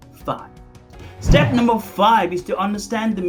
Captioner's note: air whooshing